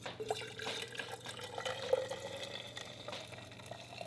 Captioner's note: water pours